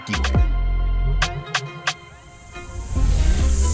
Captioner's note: teleportation hums